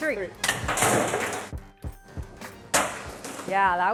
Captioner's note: crashing